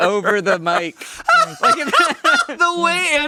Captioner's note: laughing